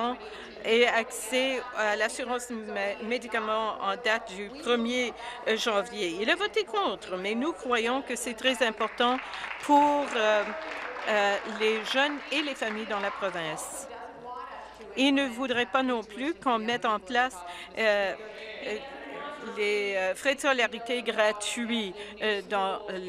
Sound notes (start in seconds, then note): 13.6 applause